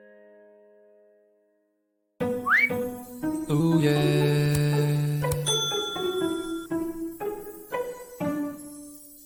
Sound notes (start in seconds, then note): 2.5 plucked string music; 5.1 mouse clicking; 5.4 bell ringing